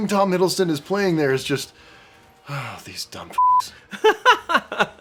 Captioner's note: beeps